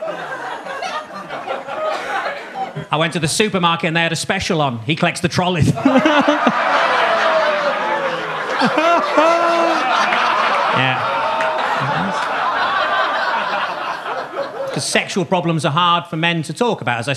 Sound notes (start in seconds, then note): 6.8 Gary laughing; 7.7 audience laughing